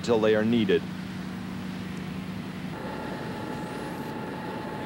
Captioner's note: machinery running